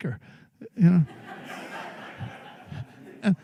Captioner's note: laughter